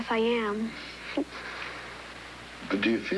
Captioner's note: chuckles